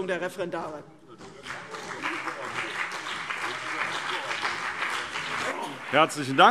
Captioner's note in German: Beifall CDU und BÜNDNIS 90/DIE GRÜNEN